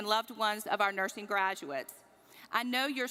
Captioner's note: none